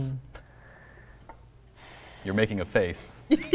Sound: inhales and exhales deeply; laughs

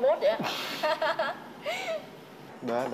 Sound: laugh

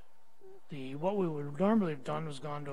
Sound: none

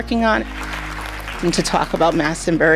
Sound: people clapping

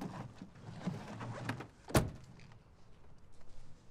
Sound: none

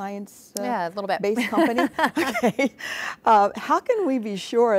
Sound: both laughing

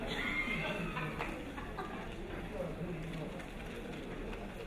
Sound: crowd laughing

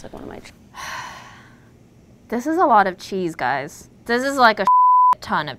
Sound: sighs; beep

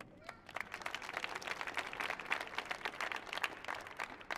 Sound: audience applauding

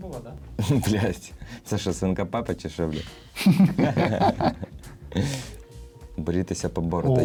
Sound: laughter

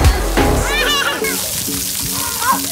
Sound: water splashing; child screams

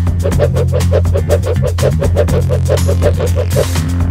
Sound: whirling sounds

